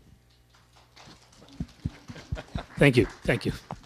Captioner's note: applause